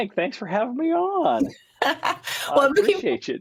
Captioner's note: laughs